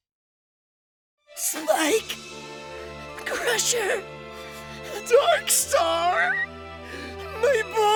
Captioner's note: crying